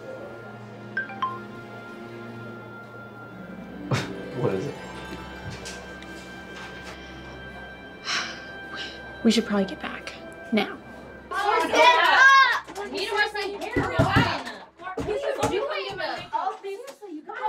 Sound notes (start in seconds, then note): 1.0 phone chimes; 3.9 chuckles; 8.0 sighs; 14.7 sisters chattering